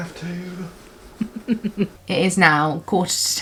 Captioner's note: chuckles